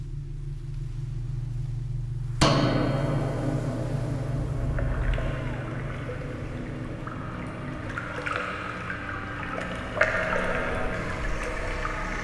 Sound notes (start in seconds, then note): 5.2 liquid splashing